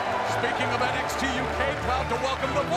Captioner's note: crowd cheering